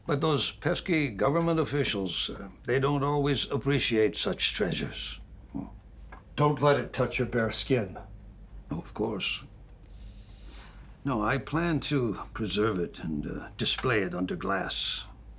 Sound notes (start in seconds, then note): none